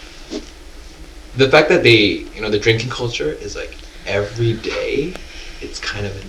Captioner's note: drinking